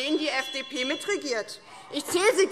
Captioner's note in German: Fortgesetzte Zwischenrufe - Glockenzeichen